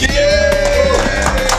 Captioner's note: applause